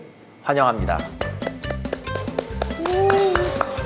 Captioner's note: clap